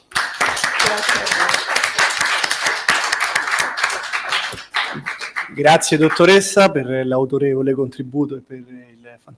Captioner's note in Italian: Applauso